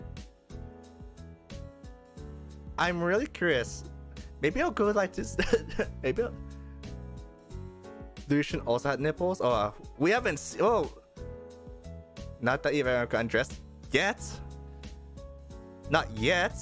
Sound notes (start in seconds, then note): 5.4 cough